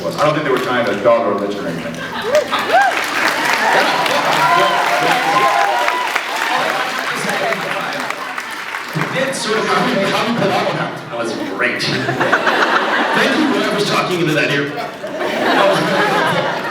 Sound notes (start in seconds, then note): 2.0 cheers, applauds; 4.9 applauds; 7.8 applauds; 11.2 laughs